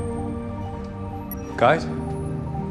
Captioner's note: over comms